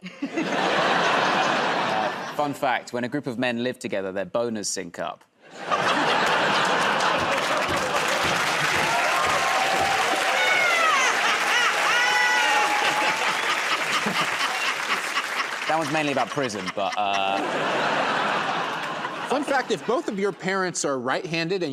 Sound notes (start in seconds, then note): 0.0 laughter; 5.5 laughter; 9.3 cheering and applause; 13.9 laughing; 17.6 laughter